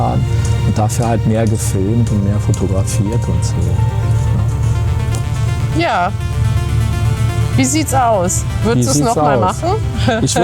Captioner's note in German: gelächter